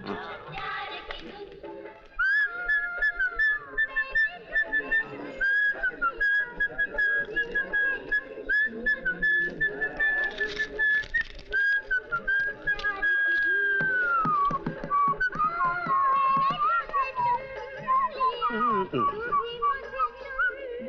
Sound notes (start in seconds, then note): 0.3 song playing on radio; 2.1 whistling